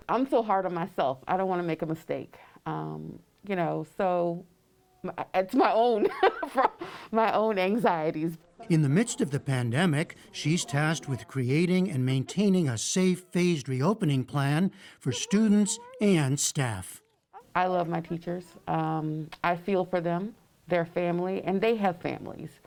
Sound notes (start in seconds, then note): 5.9 laughter